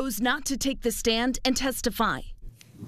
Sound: nats from court

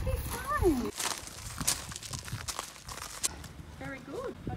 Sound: gravel crunching

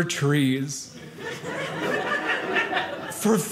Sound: audience laughing

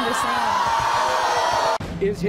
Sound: audience yells

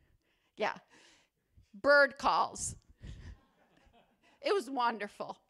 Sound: laughter

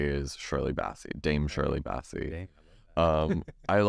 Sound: laughs

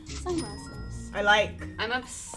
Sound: tinkling bell

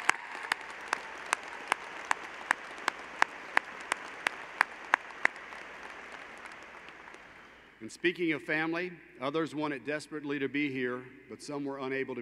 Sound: applause

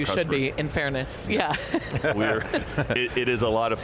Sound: laughing

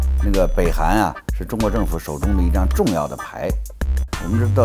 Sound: speaks in foreign language

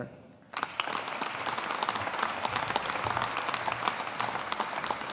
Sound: audience applauding

